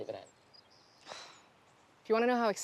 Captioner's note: snorts